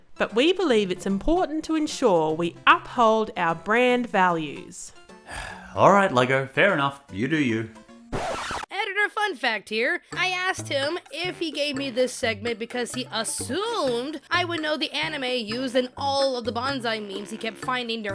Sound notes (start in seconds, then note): 5.2 sighs; 8.1 record scratch